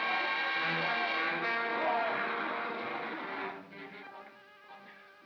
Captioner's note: growling; suspenseful music; ominous music